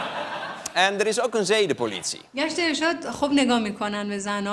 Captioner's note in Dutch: gelach; gelach